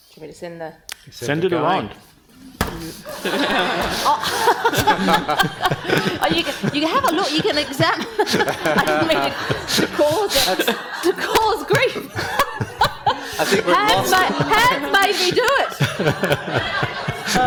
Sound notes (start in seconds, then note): 2.7 panel and audience laughing; 11.0 laughing